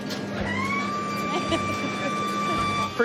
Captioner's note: hydraulics whirring